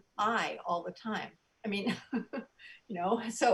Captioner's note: soft giggles